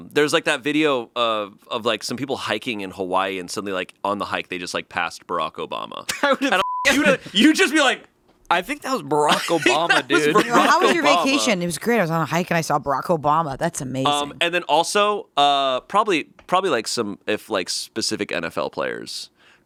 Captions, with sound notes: And there's like that video of some people hiking in Hawaii, and suddenly on the hike, they just passed Barrack Obama. - (laughing) I would have (beeping). - You'd just be like- - I think that was Barrack Obama, dude. - That was Barrack Obama. - How was your vacation? It was great, I was on a hike and I saw Barrack Obama. That's amazing. - And then also, probably like specific NFL players.